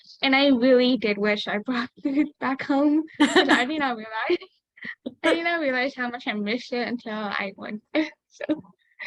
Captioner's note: laughs